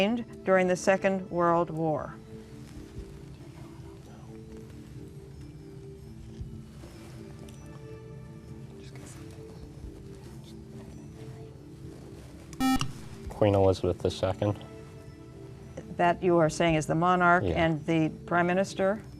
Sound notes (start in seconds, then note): 3.4 whispering; 12.6 beep